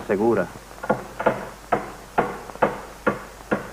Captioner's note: banging